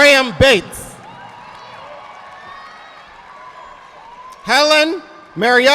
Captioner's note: audience applauding